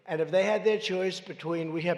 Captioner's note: none